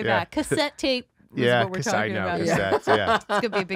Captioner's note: laughing